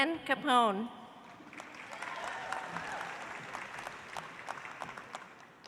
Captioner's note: audience applauds